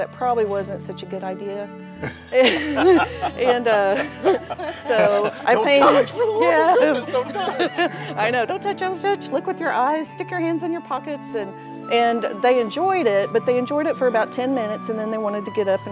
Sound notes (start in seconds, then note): 2.0 laughing